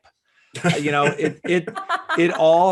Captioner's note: panelists laughing